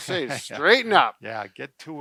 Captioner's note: laughs